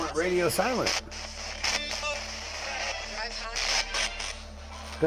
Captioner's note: spirit box voice